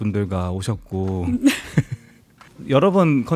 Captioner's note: laughs